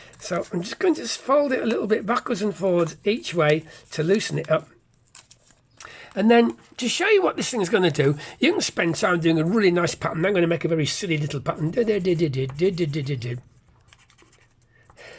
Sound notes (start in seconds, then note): 11.0 doodle sound